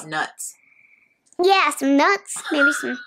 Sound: chuckling

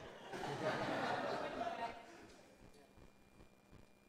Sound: laughing

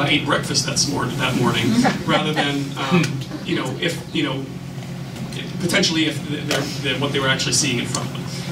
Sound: laughter

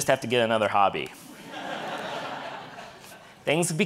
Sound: audience laughing

